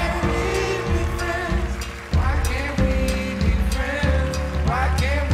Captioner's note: cheers and applause